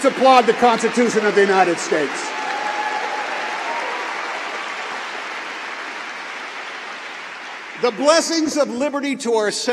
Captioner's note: cheering